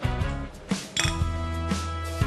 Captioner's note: playful music continues; clink